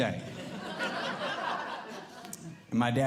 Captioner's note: audience Laughing